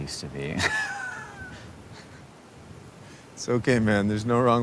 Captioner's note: both laughing